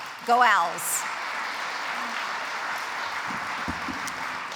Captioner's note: audience applauds